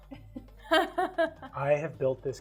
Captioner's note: laughing